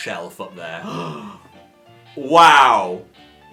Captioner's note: gasping